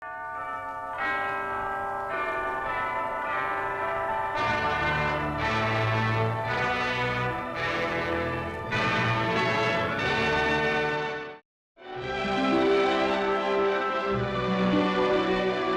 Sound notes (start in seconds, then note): 0.2 bells ringing; 4.1 triumphant music; 11.8 light calming music